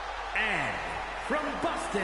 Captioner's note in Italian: Applauso